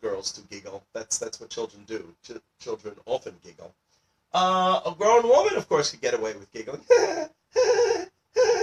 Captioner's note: giggling